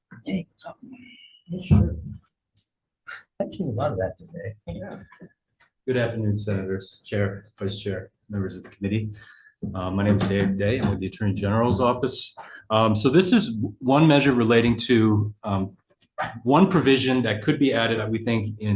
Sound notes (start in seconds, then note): 4.6 chuckles